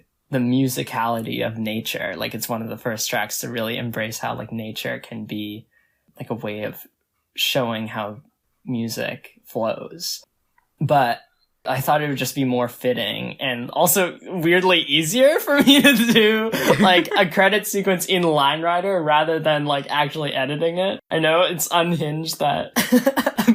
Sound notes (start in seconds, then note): 15.6 both laugh; 22.9 laughs